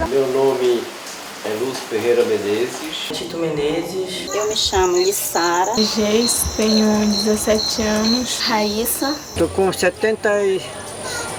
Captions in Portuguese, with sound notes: Meu nome é Lúcio Ferreira Menezes. Tito Menezes. Eu me chamo Lissara. [canto de grilo] Geise, tenho [canto de grilo] 17 anos. Rayssa. [canto de grilo] Estou com 70 e...